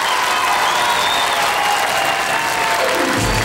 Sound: audience cheers

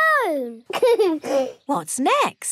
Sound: giggles

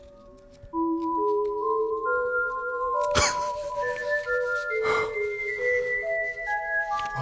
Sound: gentle foreboding music; Antoine laughing

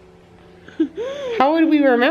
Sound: laughs

